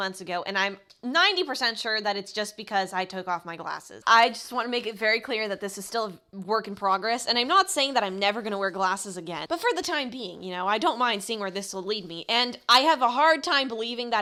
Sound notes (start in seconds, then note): 5.8 stammers